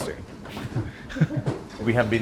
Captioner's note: ladle knocks; laughs